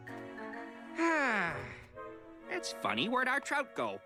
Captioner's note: sighs